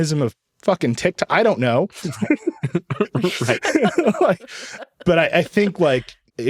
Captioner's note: all laughing